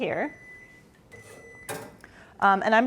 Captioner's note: microwave beeps